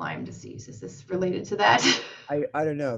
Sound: laughs

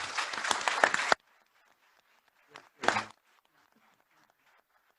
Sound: applause

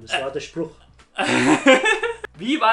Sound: laughs

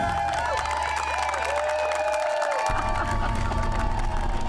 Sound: applause

